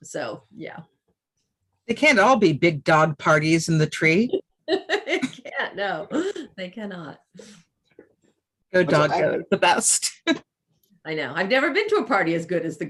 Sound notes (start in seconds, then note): 4.6 laughs; 10.1 chuckles